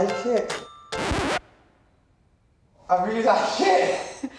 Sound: record player scratch

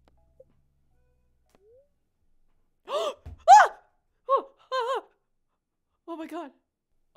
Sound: gasp

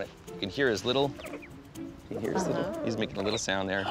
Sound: tweeting

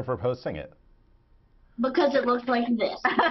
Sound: laughter

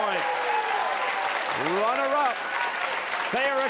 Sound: cheers and applause

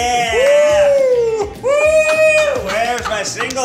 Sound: Ned cheers; Keith laughs

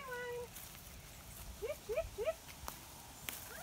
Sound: calls to sheep

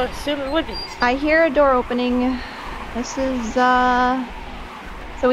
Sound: gate creaking; sigh

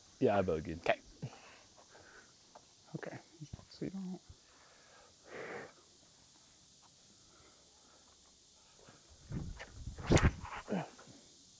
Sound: silence

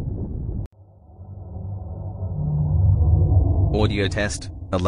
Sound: eerie ethereal transitional SFX

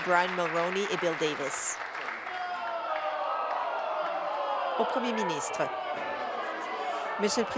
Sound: applause

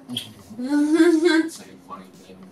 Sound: laughs

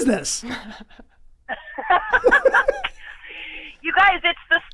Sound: all laughing

